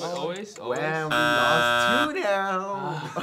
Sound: buzzer sounding; laughing

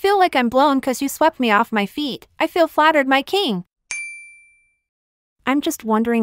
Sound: ding

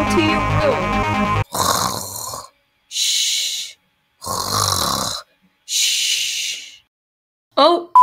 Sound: snoring

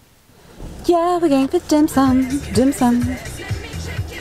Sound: sing-song voice

